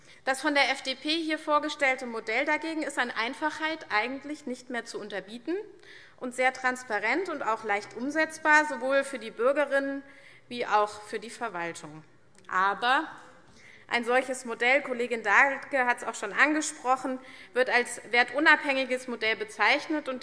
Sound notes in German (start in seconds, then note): none